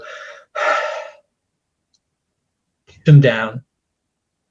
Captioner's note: sighs